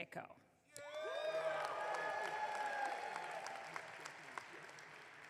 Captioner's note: audience clapping